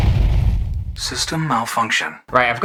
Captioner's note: explosion; computer Voice